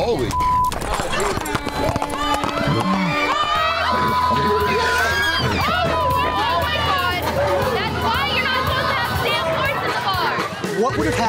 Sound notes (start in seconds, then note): 3.0 crowd cheers